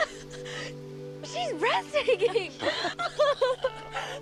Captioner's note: laughing